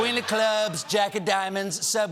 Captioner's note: laughter